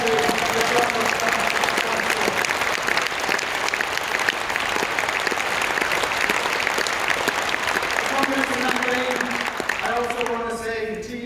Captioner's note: applause